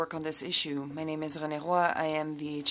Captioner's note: speaking French